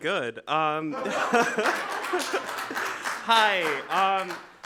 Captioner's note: audience applauding